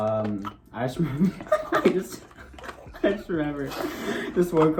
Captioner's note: both laugh